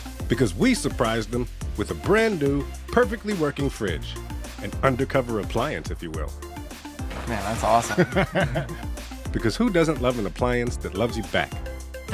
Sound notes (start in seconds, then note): 7.7 man laughing